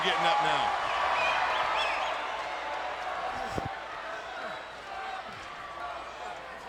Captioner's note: crowd cheering; crowd whistling